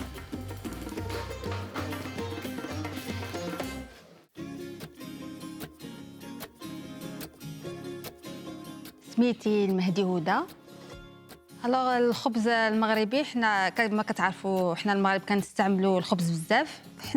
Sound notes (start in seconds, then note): 9.2 speaking Arabic